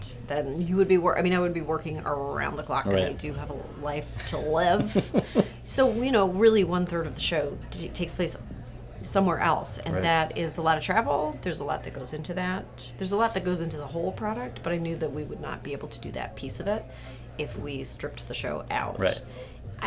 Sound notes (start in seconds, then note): 4.5 laughs